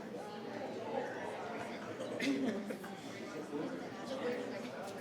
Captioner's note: people chattering